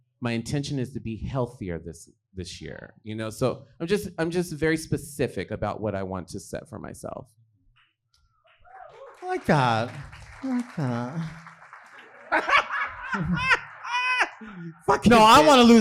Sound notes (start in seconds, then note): 8.7 audience clapping; 12.0 laughing